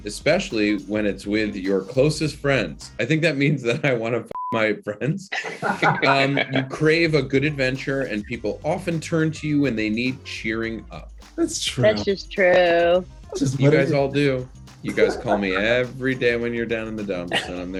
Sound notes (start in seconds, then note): 4.3 beep; 5.3 Aidy and Brandon laughing